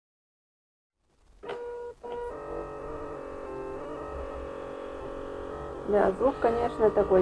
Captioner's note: printer printing sound